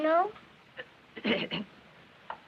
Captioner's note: clears throat